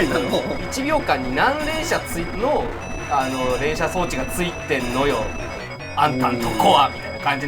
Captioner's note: laugh